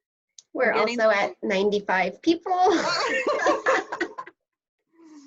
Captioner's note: laughter